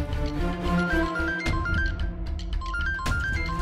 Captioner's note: phone ringing